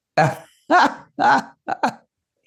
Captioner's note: laughing